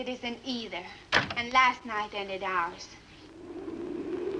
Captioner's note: door closes; wind howls